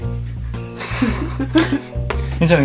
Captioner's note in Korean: 웃음소리